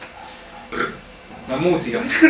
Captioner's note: burp